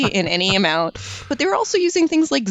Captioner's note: laugh